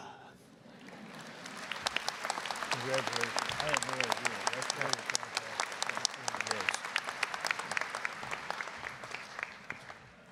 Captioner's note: applause